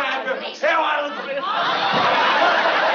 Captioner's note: shouting